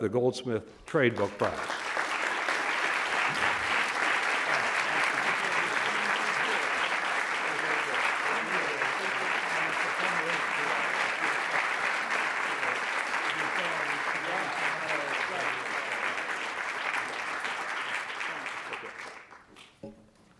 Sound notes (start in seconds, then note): 3.1 audience applauds; 8.4 speaking off-microphone